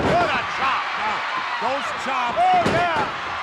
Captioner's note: applause